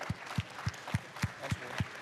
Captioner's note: applause